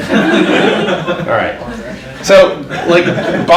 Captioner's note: audience laughs; overlapping chatter